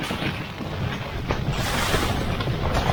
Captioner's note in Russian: сильный шум ветра